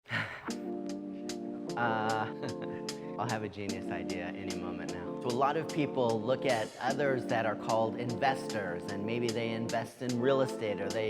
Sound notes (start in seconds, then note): 0.1 exhales sharply; 0.9 upbeat music; 1.7 chuckling